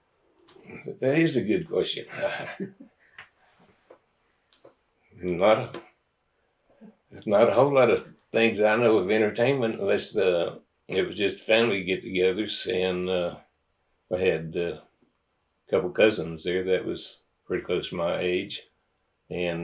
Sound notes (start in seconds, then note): 7.1 laughs